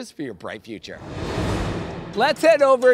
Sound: air whooshing

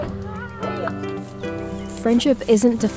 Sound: friends laughing and greeting each other; grass crunching

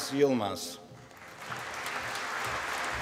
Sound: applause

